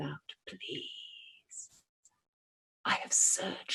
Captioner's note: whispers